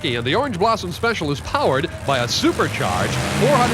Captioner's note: voiceover